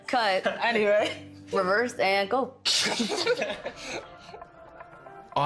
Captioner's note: all laughing